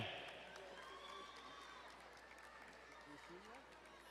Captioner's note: distant cheering